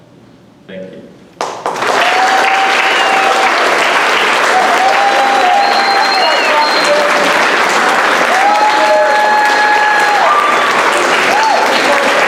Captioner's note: audience applause